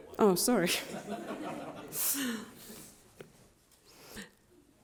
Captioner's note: crowd laughing